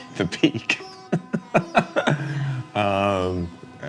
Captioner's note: laughs